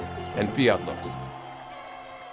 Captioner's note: speaks in foreign language; audience cheers; audience claps